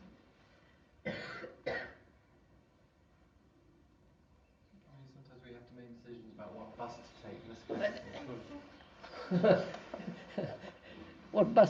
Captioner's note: laughs